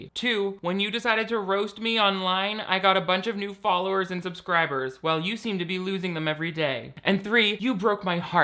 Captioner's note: none